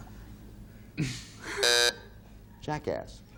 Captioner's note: buzzer sounding off